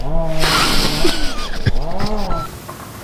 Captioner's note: laughter